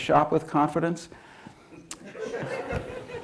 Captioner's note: laughter